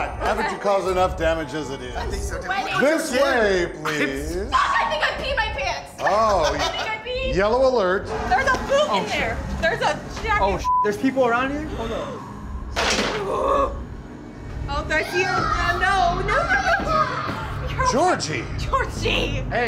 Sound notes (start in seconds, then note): 11.8 gasps; 12.7 loud crack